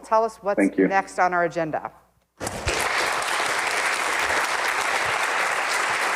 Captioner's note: audience applauding